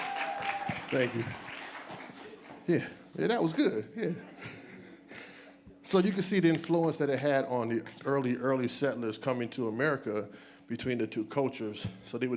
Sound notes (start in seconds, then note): 0.0 audience applauds and cheers